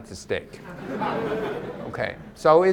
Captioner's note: audience laughs